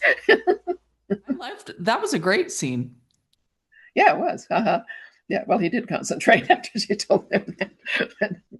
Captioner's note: laughing; chuckling